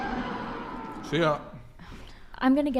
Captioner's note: mouth full